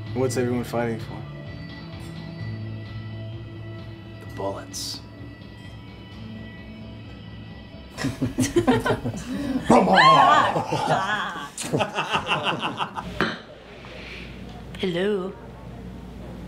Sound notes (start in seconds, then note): 8.0 laughing; 9.6 Jason shouting